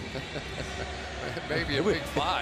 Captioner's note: laughter